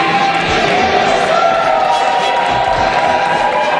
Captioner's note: cheering